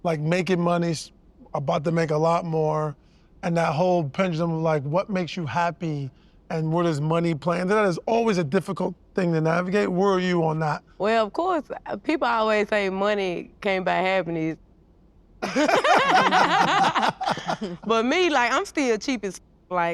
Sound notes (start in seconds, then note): 15.4 all laugh